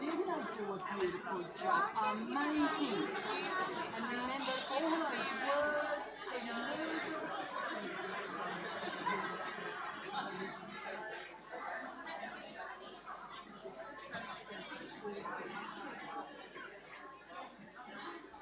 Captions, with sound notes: Didn't they do a beautiful job, amazing. And you remembered all of those words! (children chattering) (audience chattering)